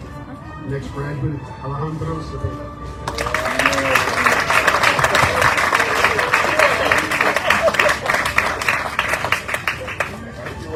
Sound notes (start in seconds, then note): 3.0 audience cheering, applauding